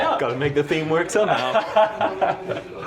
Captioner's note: laughter